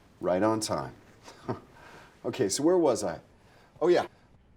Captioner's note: scoffs